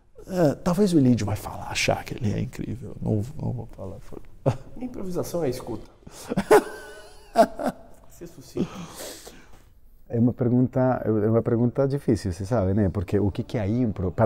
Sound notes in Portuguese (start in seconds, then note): 6.1 Risos